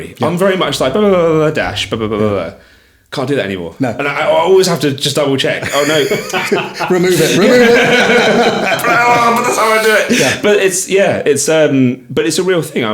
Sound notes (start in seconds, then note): 8.6 all laughing